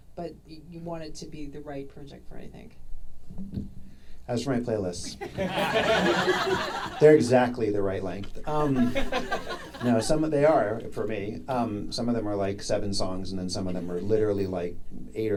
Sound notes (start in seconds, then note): 5.1 audience laughing